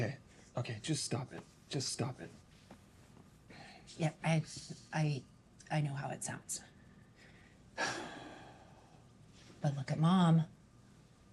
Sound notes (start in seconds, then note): 7.8 sighs